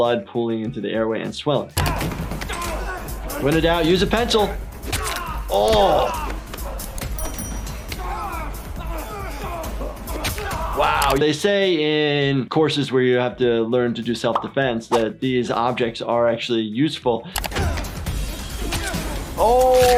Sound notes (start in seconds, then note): 2.4 men grunting; 7.8 men yelling; 19.1 man's ear ripping